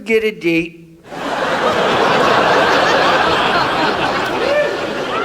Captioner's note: audience laughs